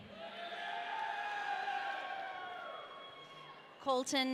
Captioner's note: audience cheering